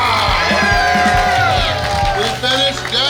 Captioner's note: cheering & Clapping